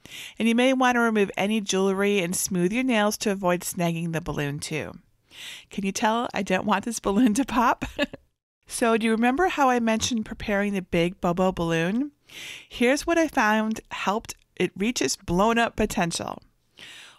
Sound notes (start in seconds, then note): 7.8 chuckles softly